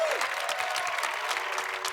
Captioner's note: cheers and applause